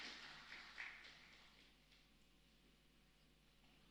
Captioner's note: applause